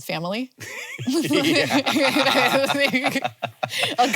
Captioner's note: both laughing